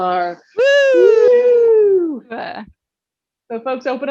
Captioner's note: cheering